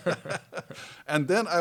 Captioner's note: laughs